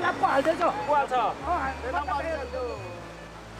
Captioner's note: indistinct chatter